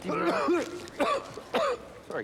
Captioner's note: Ron coughs